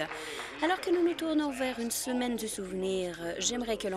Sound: speaking Alternate Language

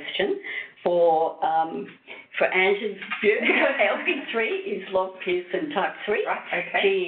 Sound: chuckles

